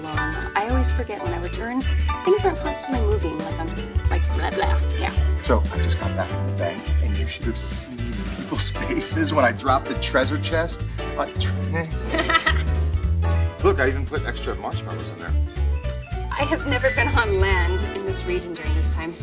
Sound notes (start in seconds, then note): 12.0 Daphne laughing